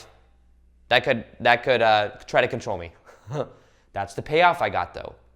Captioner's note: laughs